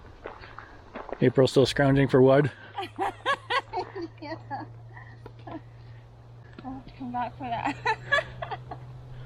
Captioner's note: laughs